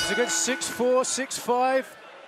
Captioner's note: bell ringing